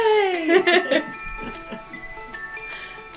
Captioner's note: upbeat music; laughs